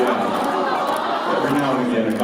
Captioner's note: audience "aww"s